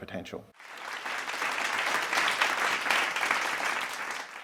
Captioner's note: audience applause